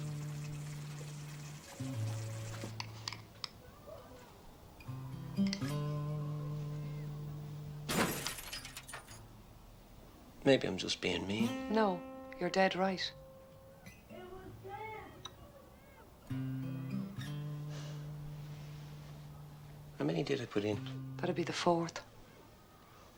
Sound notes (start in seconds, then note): 7.8 El cristal se rompe; 14.2 Niño grita